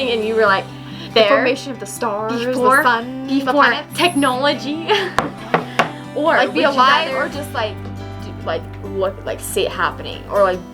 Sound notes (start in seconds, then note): 4.5 laughs